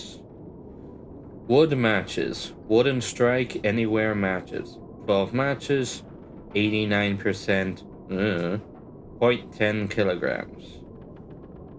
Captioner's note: I dunno noise